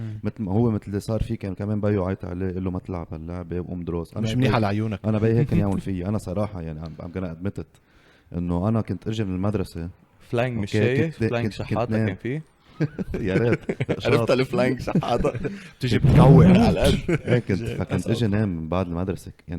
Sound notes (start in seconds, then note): 12.7 laughs